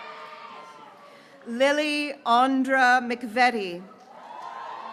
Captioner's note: graduates cheering